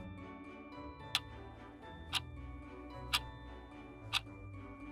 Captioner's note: clock ticking